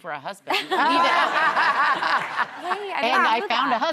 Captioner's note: laughing